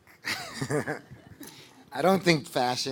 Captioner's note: laughing